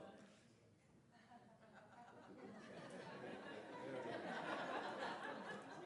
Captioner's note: laughter